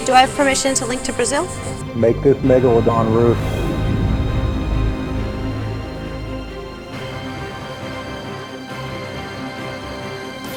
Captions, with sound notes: - Do I have permission to link to Brazil? - [Voiceover] Make this Megalodon, Ruth!